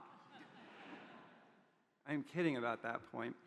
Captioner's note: audience chuckles